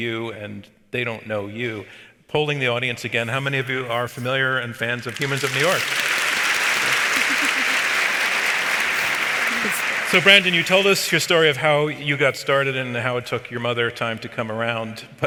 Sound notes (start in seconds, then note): 5.0 audience applauds